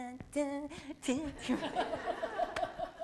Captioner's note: laughter